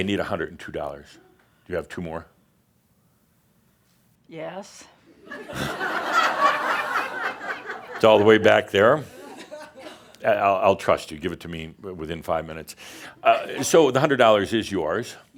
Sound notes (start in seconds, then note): 3.3 pauses slightly, then answers grumpily; 5.2 laughter